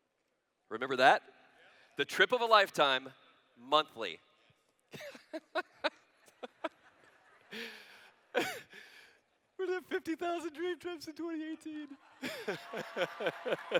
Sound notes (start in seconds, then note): 4.9 laughter; 12.2 cheers